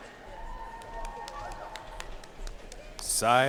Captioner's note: audience cheering and applauding